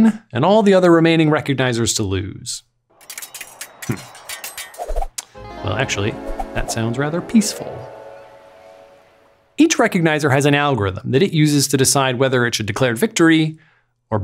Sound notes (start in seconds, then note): 3.9 swords tinkling; 8.1 peaceful music